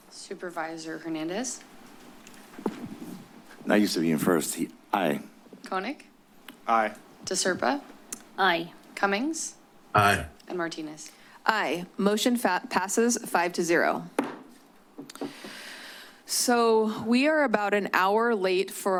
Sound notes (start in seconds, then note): 14.2 gavel tap